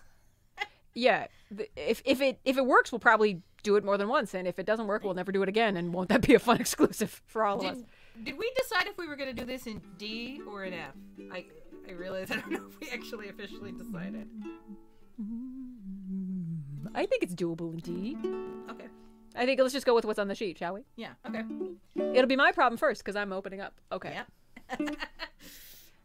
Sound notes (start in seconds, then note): 13.6 hums; 24.7 laughing